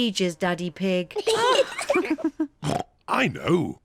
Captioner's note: kids and mummy pig laugh; oinks